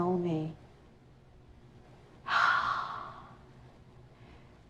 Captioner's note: sighs